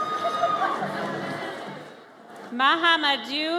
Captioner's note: audience cheers